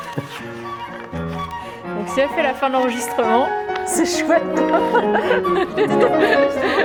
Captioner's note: laughter